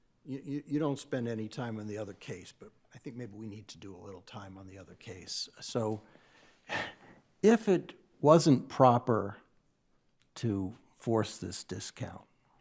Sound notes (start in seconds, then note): 6.6 sighs